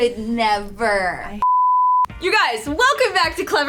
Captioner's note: beep